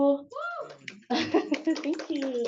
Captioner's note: woman cheers; clapping